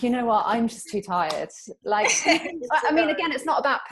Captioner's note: laughs